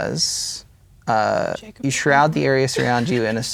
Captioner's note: speaking quietly